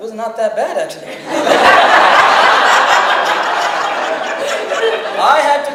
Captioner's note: audience laughs